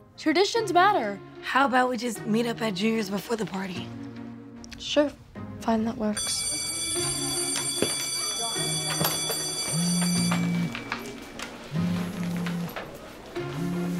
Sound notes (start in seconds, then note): 6.2 school bell ringing; 10.9 phone vibrating